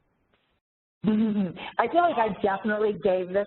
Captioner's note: laughs